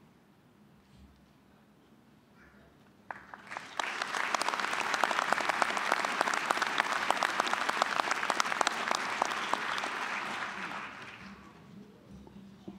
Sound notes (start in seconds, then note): 3.0 applause